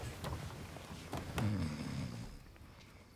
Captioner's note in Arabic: شخير أوسكار